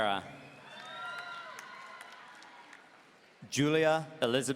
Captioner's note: audience cheering